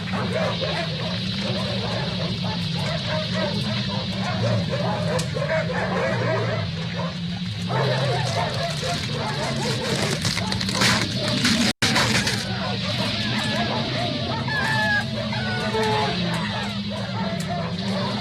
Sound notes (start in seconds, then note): 13.2 dogs Barking And Baying; 17.2 dogs Barking